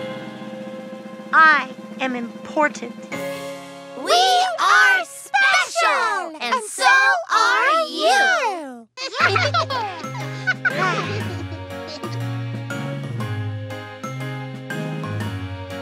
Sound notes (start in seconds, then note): 8.9 laughing; 11.0 bouncy music